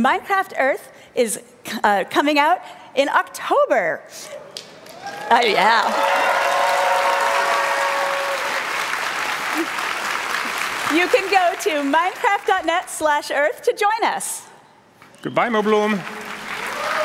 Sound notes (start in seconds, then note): 6.6 applause